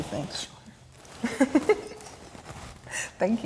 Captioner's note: laughs